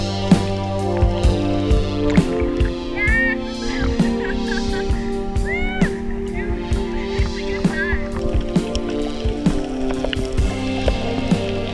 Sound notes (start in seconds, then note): 4.2 laughing